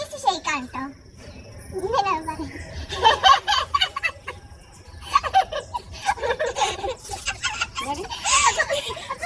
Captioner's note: laughing